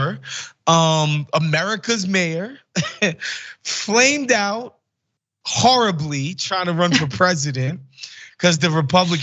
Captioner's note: laugh